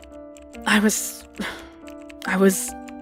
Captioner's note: sigh